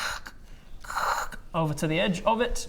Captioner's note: khrrk